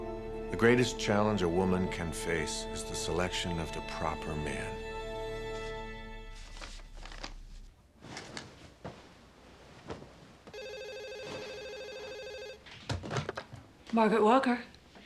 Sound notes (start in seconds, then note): 6.3 paper rustling; 10.5 phone ringing